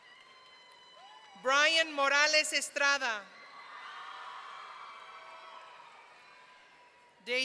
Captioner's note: audience cheering; audience cheering